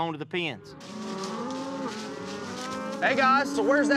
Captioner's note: mooing